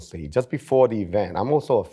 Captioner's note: none